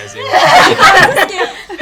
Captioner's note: all laughing